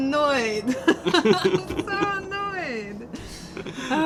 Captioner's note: laughter